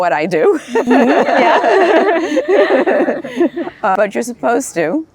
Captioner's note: laughing